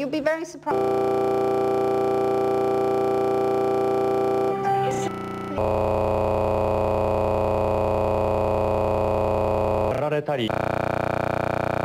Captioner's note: corrupt Audio